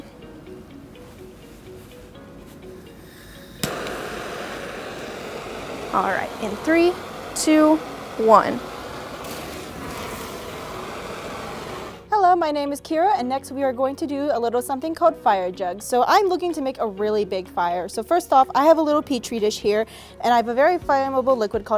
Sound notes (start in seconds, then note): 3.5 torch ignites; 9.1 flame ignites